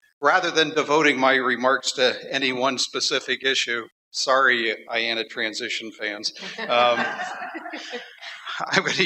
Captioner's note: laughter